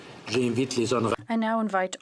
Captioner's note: speaking French